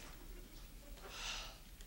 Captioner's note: sighing